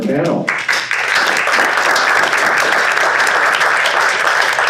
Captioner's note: audience applauding